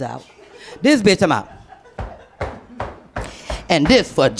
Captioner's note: stomping